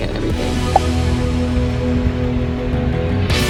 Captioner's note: air pops; energetic music